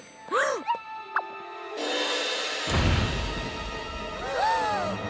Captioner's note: gasps; footsteps pounding; all gasp